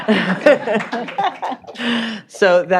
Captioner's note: laughter